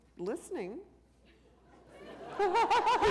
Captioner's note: laughter